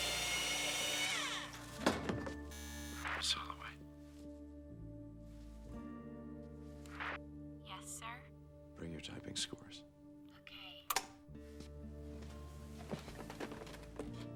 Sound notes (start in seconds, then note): 2.6 intercom buzzes; 10.9 clicks off